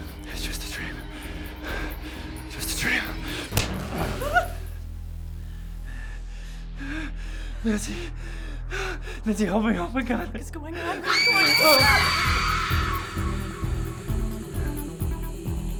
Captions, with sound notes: - It's just a dream, just a dream. (hand slapping) Help me, my God. (person screaming)